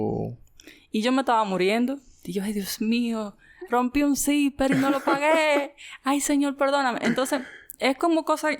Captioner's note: laughs